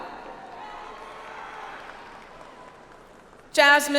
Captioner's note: audience applauds